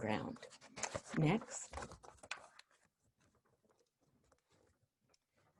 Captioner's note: papers shuffling